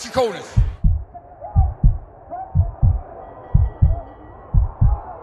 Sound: heart pounding

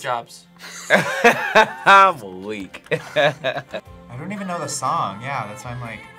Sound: laughs

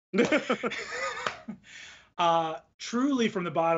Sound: both laugh; laughs

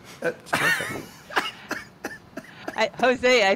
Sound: José laughing

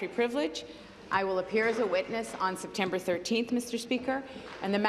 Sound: applause

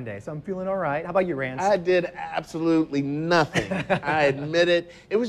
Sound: laughs

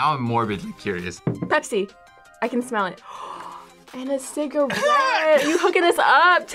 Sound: gasps

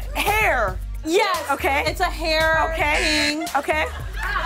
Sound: buzzer

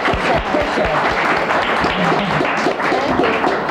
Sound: audience applauding

